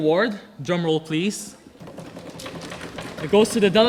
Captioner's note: audience drumming